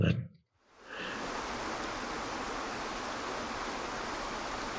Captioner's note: water rushes